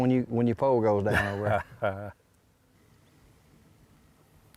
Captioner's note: laughing